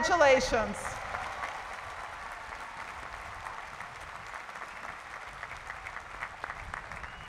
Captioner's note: cheering and applause